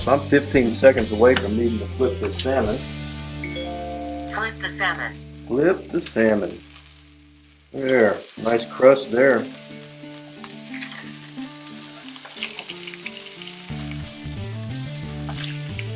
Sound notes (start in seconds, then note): 3.4 electronic beep; 5.9 voiceover; 11.5 sizzling